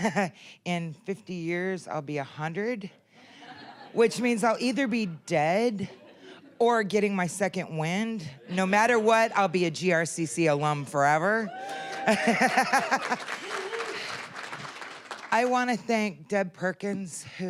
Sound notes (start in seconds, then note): 0.1 chuckling; 3.3 audience laughing; 11.5 applause, cheering